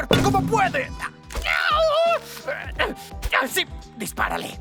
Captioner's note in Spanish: Se queja del dolor